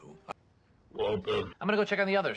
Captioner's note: bitcrushed “waltuh”